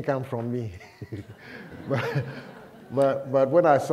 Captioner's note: laughter